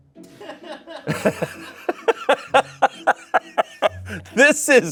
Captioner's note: laughs